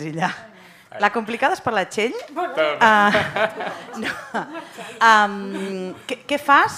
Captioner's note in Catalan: riures